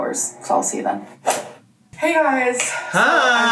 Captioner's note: whip cracks